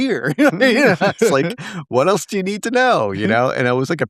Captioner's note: laugh